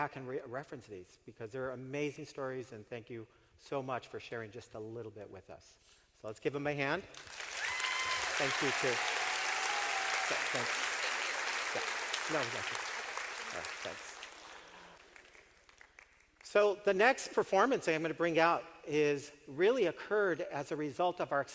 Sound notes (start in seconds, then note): 13.1 clapping, cheering